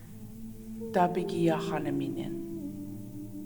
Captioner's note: In Mi’kmaq